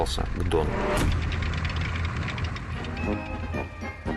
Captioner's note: sound of tank treads